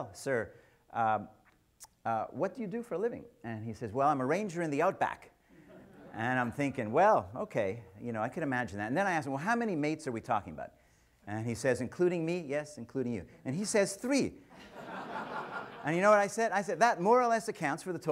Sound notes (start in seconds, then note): 14.5 audience laughs